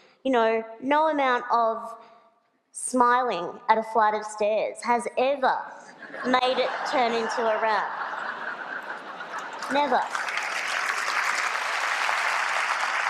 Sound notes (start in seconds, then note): 8.2 laughter; 10.9 applause